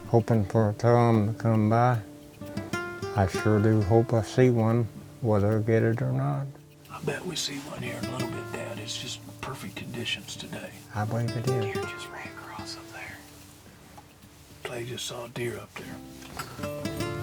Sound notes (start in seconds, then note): 4.5 whispering; 14.2 whispering